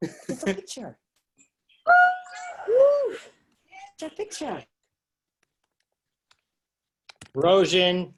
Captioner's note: cheering